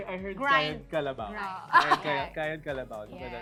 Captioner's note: grinding nonstop